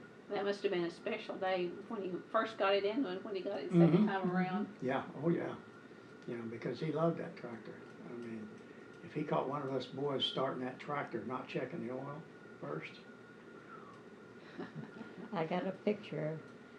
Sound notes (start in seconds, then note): 13.6 low whistle